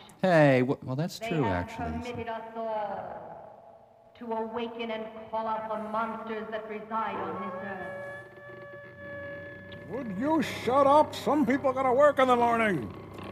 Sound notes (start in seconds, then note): 7.8 creaking